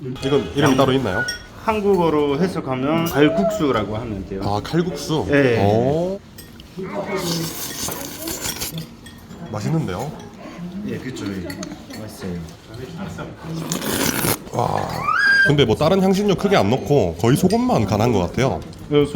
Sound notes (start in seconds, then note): 7.0 slurp